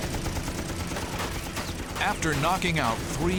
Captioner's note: bullets whirring